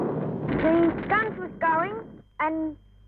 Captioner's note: loud explosions